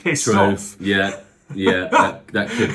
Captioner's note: laughs